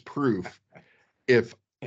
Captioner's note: laughing